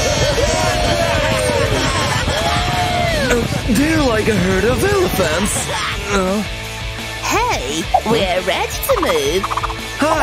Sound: screaming happily

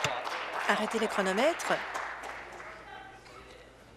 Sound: applause

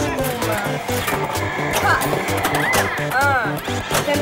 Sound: electronic game music; paddles clicking

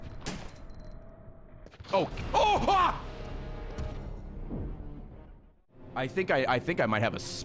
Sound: screams

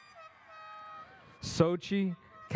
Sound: airhorn sounds

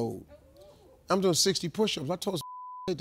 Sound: beep

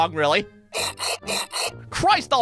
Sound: grinding noise

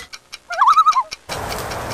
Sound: loon calls

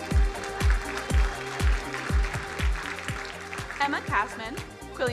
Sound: crowd applauding

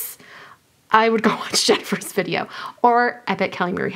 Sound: laughs

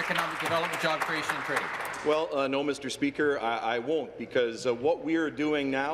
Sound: applause

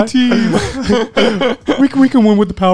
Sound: laughing

